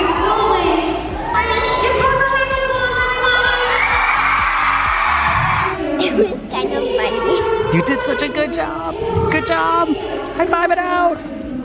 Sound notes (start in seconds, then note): 4.6 audience cheering